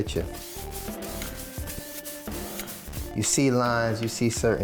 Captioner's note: brush swooshes